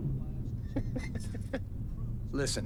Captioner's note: Boyd laughs